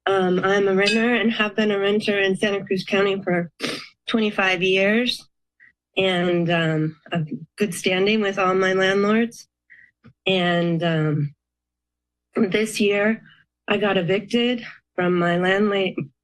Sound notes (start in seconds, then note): 4.5 sniffs